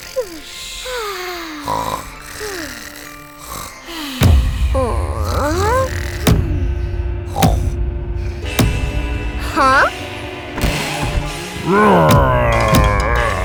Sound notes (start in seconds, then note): 5.1 boom; 5.3 sleepy groaning; 7.3 booming footsteps; 11.5 growling